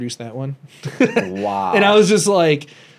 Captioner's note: laughs